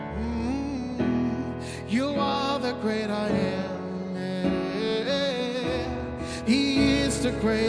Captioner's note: humming